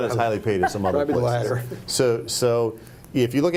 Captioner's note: group laughing